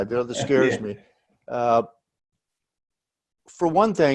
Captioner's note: laughs